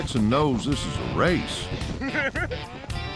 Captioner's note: laughter